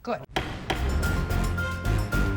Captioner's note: gavel bangs; dramatic music